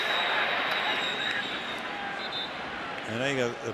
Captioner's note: whistle